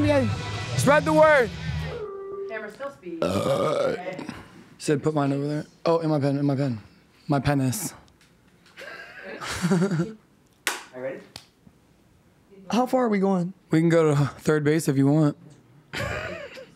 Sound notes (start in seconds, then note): 3.2 burps; 8.8 laughs; 15.9 laughs